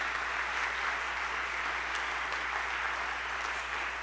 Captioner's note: people clapping